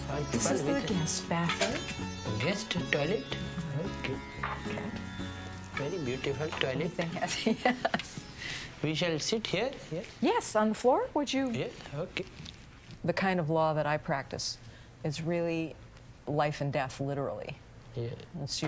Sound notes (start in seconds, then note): 7.2 laughs